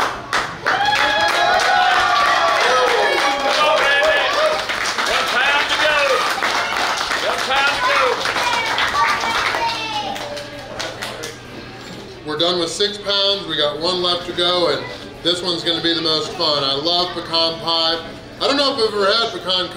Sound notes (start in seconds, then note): 0.2 clapping & Cheering; 6.4 clapping & Cheering